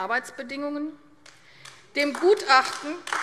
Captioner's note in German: Beifall AfD